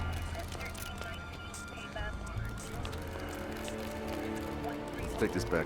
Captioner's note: muffled speaking over radio